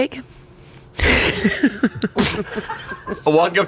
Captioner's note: laughs